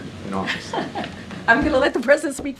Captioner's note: laughs